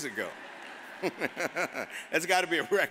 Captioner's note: all laugh